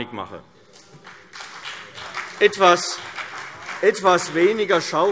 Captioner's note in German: Beifall CDU und vereinzelt BÜNDNIS 90/DIE GRÜNEN